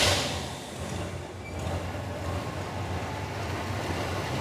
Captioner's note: metal Clanking